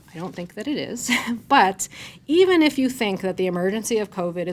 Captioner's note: chuckles